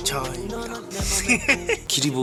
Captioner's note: hehehe